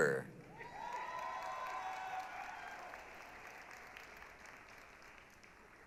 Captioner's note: applause, cheering